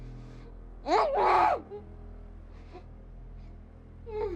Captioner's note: person yelling